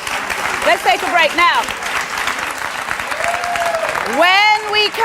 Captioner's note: audience applauds